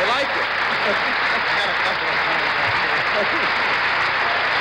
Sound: applause and cheering continues

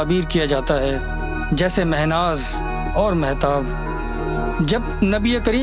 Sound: Urdu words

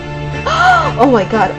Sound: gasps

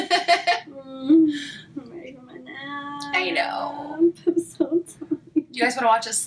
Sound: laughing; moaning; sob

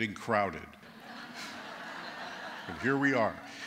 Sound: laughter

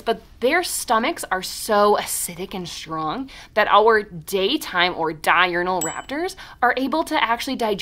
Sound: ding

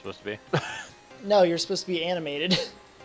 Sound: laughs

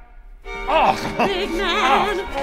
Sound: pain sounds

